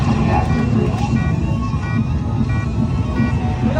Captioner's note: lasers firing; alarm beeping